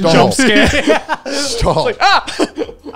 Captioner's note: laughs